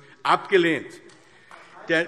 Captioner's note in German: Beifall AfD